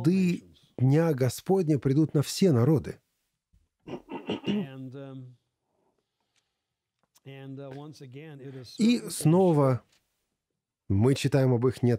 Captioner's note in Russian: прочищает горло